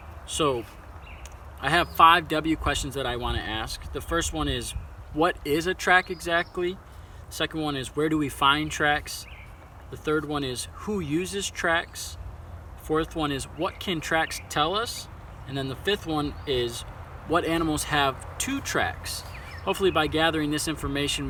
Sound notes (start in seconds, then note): 8.6 birds chirping in background; 14.2 birds chirping in background